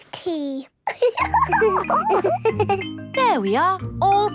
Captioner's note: giggles